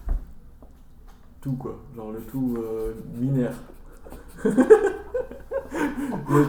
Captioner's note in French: rires de macaque en parlant du feu